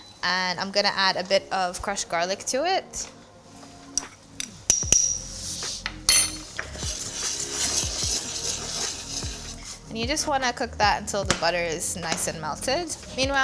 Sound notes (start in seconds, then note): 5.0 soft music; 5.9 utensils clanking